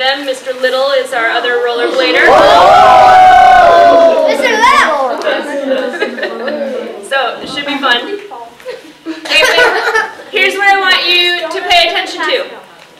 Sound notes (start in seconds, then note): 1.8 cheering